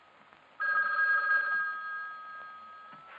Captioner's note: phone ringing